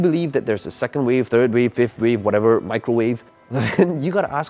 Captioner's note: laughs